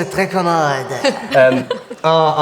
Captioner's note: laughter